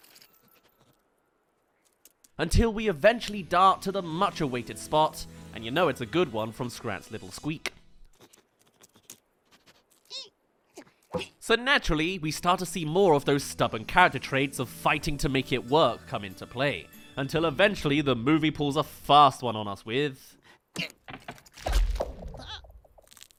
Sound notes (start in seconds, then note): 9.1 finds spot* *Squeaks; 21.4 rumble* *Cracks